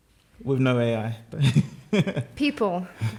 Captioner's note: laughter